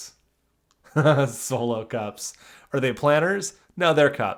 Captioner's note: laughs